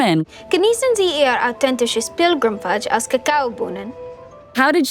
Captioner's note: Wednesday speaking in German